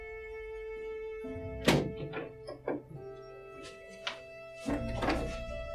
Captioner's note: door opening